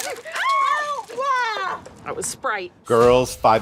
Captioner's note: women screaming